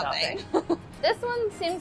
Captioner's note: laughs